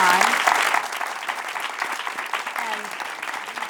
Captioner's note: applause